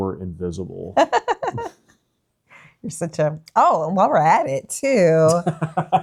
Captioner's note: laughing